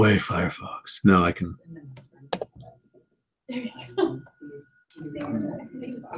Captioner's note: laugh